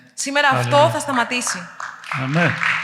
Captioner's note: applause